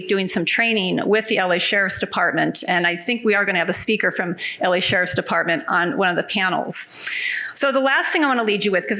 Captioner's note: none